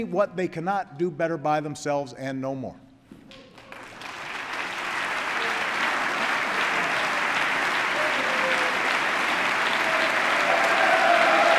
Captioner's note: applause